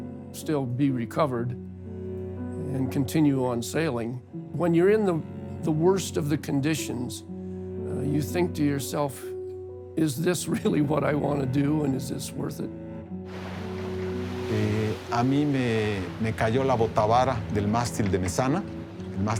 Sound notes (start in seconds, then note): 8.1 laughing